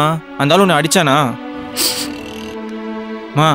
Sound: cries

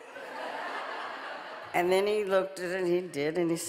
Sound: audience laughing

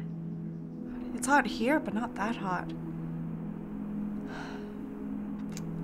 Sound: sighs

